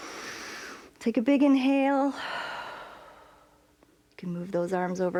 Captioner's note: inhales; exhales